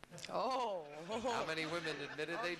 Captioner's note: audience laughing